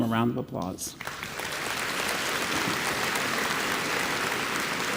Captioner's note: audience applauds